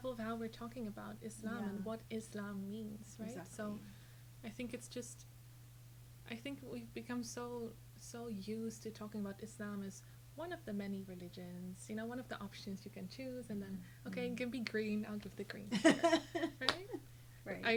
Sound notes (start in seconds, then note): 15.7 laughing